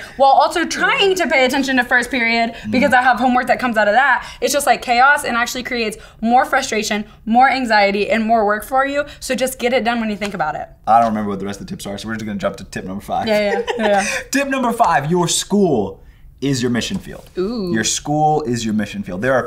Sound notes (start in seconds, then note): 13.2 laughing